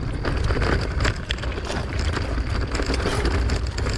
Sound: bike clattering

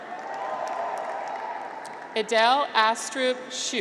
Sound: graduates cheer

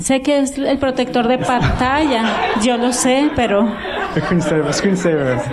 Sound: laughter

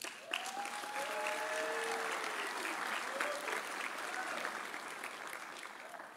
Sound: audience applauding; audience cheering

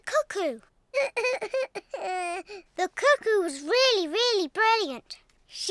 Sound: sobs

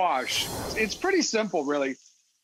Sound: scene whooshing

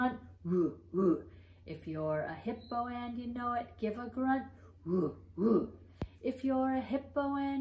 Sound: grunt sounds

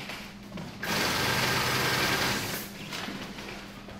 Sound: sewing machine

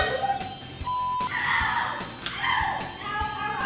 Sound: beep; screaming

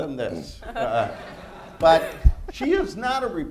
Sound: laughter

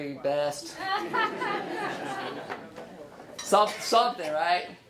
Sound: laughing

